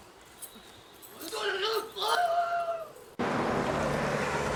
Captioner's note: master yelling